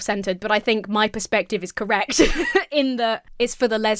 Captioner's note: laughs